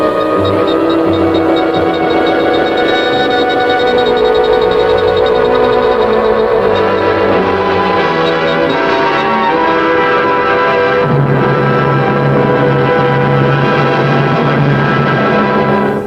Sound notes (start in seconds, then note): 1.7 device beeping